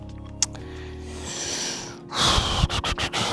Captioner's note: inhales deeply; exhales exaggeratedly